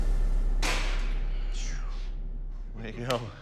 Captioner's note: exhales softly